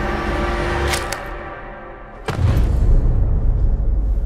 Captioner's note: tense music; neck snaps